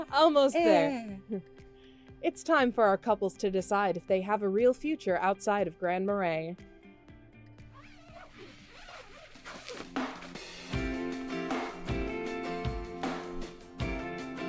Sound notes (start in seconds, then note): 7.6 tent zipper screeching; 10.7 upbeat instrumental music